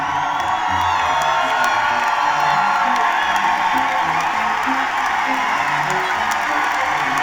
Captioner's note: cheering and applause